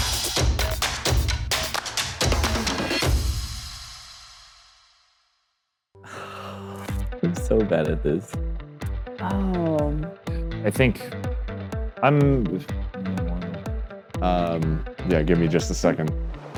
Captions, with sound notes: (sighs) - I'm so bad at this. - Oh. - I think, I'm? - Yeah, give me just a second.